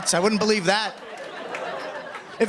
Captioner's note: laughter